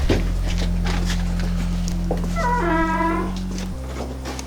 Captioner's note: door creaking